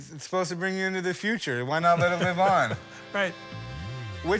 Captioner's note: laughs